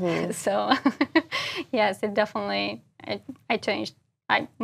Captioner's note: laugh